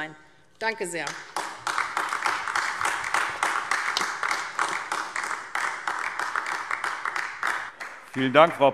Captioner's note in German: Beifall AfD